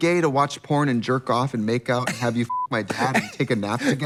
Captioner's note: beep